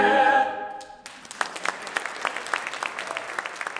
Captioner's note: soft claps